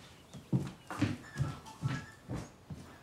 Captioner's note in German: Klingel-Ton